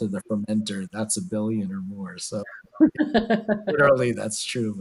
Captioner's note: laughs